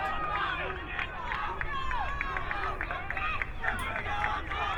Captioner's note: crowd cheering